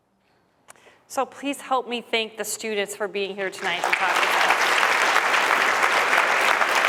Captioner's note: applause